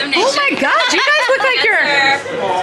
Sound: person laughing

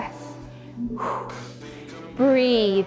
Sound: exhales

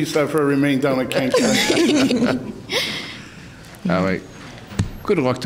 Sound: softly laughing

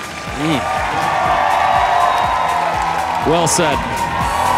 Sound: audience cheers

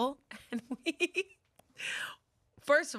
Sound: laughs

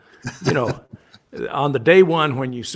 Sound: laughs

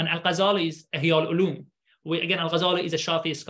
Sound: speaking arabic

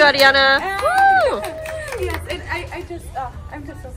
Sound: cheering

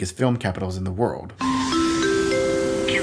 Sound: airport bell; plane lands

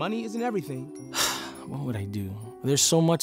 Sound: sighs

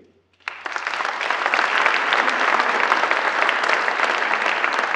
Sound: audience applauds

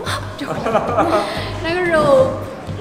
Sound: laughs

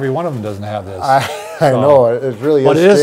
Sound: chuckles

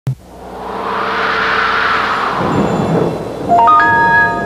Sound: analog synth whooshing sounds

